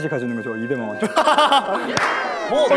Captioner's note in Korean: 으하하하